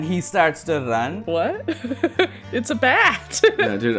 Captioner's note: laughs